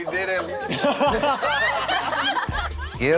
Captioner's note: laughter